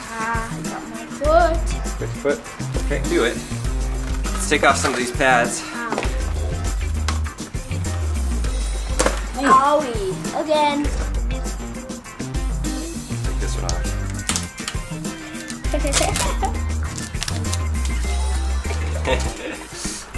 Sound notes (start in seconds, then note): 13.9 laughs